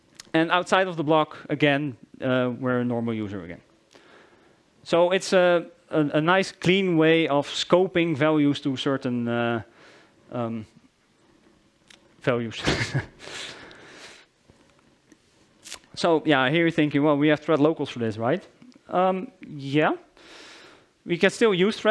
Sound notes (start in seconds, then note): 12.6 chuckles